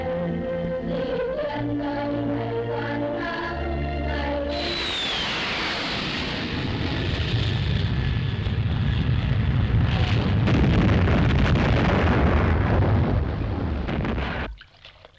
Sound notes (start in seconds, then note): 4.0 planes roaring; 11.0 bombs crashing